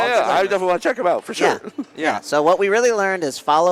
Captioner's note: laughter